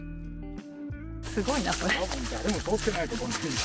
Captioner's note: laughs